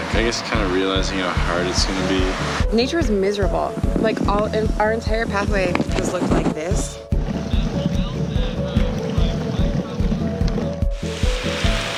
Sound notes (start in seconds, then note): 7.2 bikers chatting